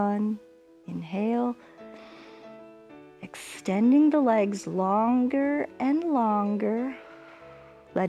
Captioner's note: inhales